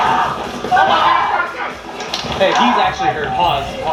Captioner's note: screaming